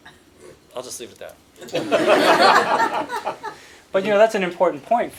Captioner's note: laughter